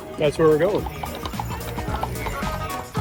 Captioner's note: horse hooves clopping; upbeat music